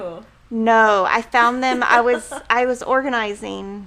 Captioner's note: laughing